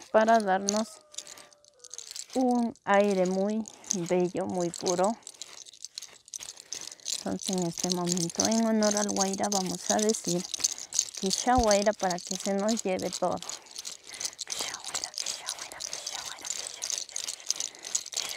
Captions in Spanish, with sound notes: para darnos un aire muy bello muy puro en este momento vamos a decir kisha waira(fuera viento) para que nos lleve todo